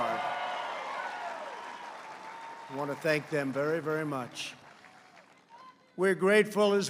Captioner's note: applause